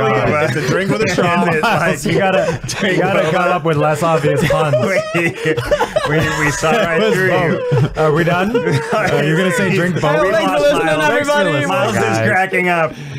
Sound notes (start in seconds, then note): 4.8 giggling